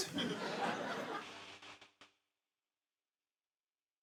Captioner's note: static hisses softly